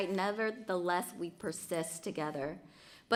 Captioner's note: none